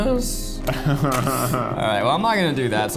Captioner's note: laughing